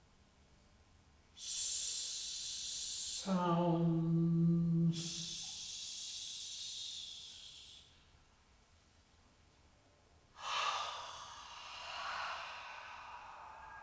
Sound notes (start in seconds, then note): 10.4 sighs